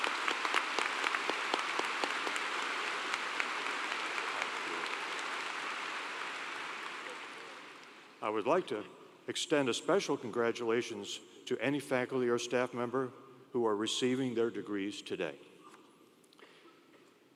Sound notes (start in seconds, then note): 6.4 applause